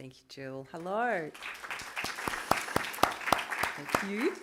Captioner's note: applause